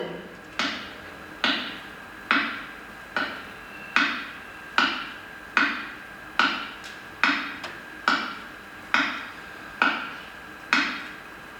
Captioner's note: tip-tapping of a cane